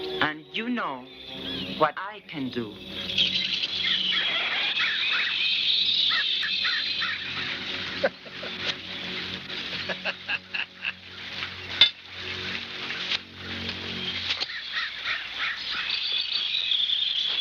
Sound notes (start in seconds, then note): 5.9 laughs